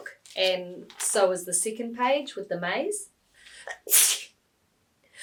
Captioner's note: sneezes